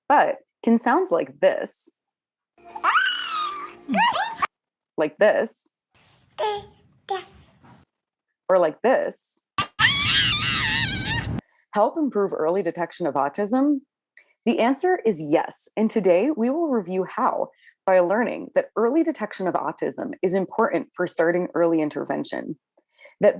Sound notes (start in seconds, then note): 2.6 baby squealing; 7.1 baby gurgling; 9.6 baby screaming